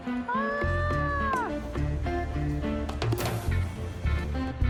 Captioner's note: shouting; subtle music